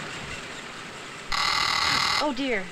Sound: phone ringing

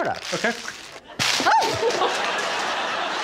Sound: audience laughing; Victoria exclaiming

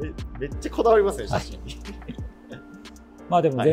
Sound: laughing

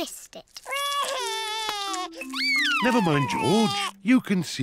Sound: sobs

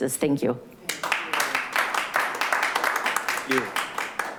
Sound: clapping

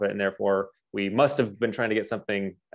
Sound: none

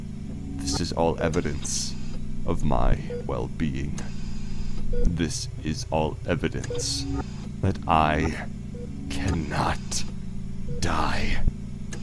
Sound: mechanical ambiance

